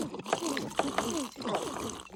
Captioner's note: slurping